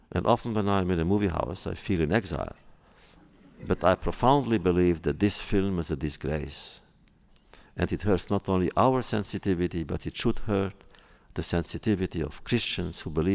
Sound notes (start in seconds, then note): 3.2 laughter